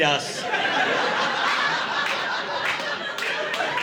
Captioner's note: laughter